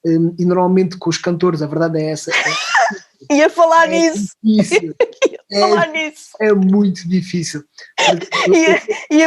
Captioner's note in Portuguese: risos